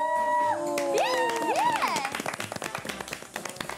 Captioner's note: cheers